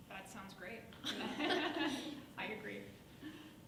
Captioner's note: laughing